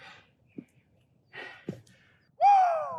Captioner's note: breathing